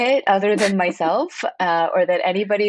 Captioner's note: laughs